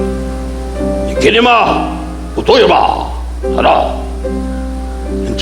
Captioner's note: Don imitating Japanese language